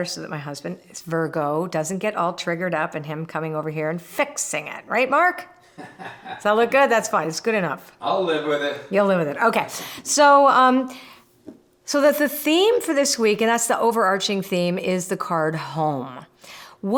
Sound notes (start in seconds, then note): 5.7 laughs